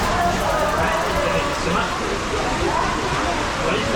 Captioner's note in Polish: odgłos wody